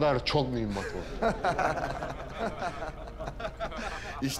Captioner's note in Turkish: Gülme sesleri